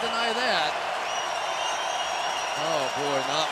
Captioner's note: crowd cheering